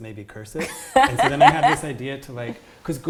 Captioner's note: laughs